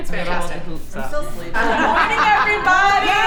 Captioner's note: laughter, chatting